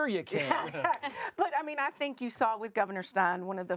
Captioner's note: laughs